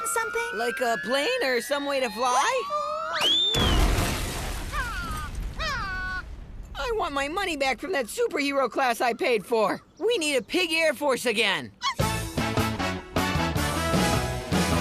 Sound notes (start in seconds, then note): 4.7 cawing; 12.0 upbeat music